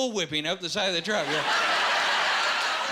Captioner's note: laughing